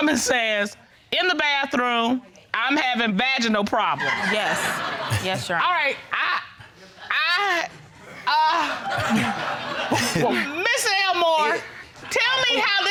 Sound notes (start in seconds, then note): 4.0 audience laughing; 8.4 all laughing